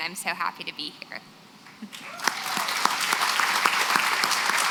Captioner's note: applause